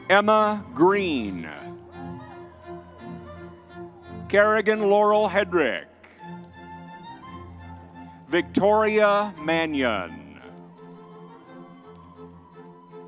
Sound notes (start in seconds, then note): 0.0 crowd cheering; 10.6 crowd cheering